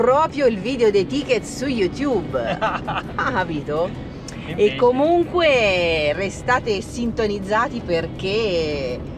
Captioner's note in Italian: risate